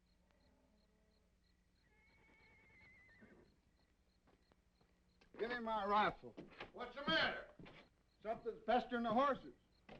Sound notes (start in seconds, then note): 1.9 horse neighing